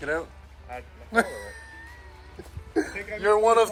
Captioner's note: laughing